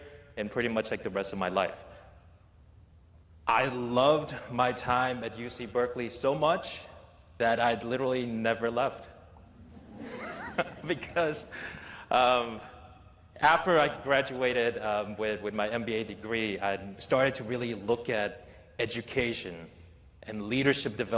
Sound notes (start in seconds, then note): 9.6 laughter